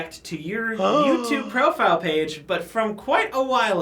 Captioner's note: gasps